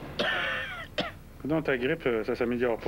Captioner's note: Elle tousse